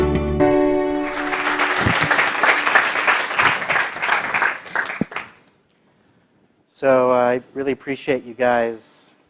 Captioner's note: applause